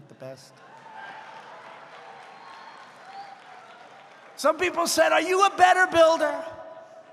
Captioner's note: applause